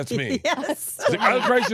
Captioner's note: chuckles